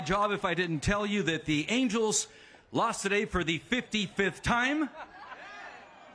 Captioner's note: cheers and applause